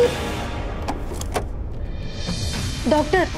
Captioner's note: door opening